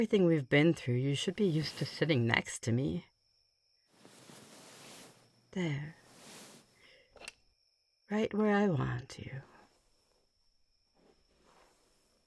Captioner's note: rustling